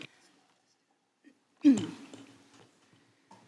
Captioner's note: clears throat